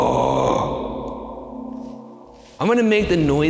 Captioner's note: voice echoing